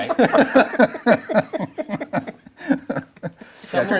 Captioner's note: group laughs